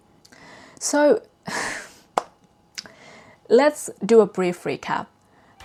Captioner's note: sighs